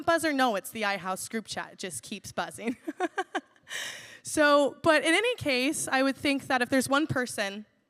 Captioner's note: laughs